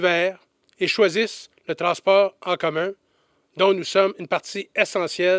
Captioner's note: none